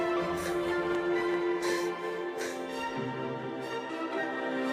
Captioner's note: heavy breathing